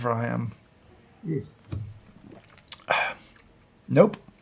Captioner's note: gulping